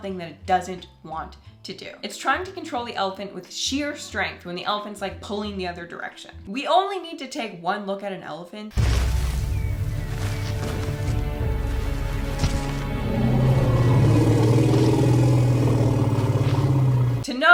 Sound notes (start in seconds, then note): 8.8 loud steps; 12.3 elephant trumpeting